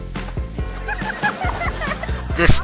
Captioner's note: girl laughing